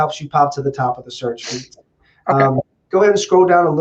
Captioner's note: voice muffling